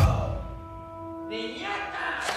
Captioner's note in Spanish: grita